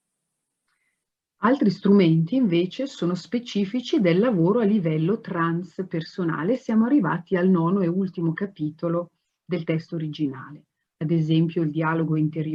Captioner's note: speaks Italian